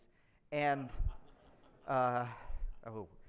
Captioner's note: audience laughs